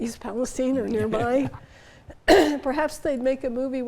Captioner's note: chuckles